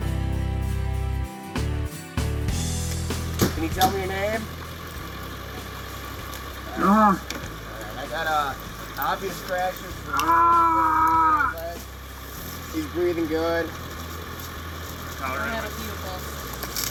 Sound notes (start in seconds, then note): 8.5 groaning